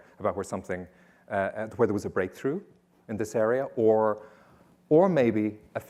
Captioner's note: none